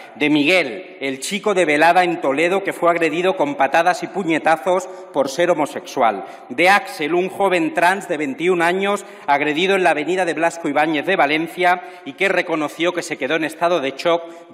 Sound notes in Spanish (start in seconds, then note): none